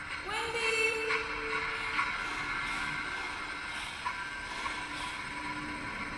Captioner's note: panting